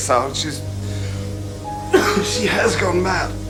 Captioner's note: coughs British-ly